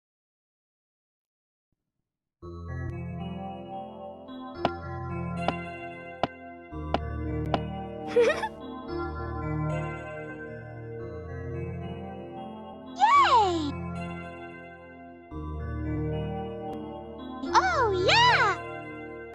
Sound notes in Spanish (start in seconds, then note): 2.2 Musica de fondo; 5.0 Pasos de Peach